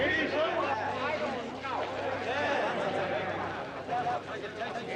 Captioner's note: crowd murmuring